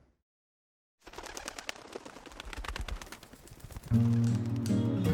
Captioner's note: bird wings flapping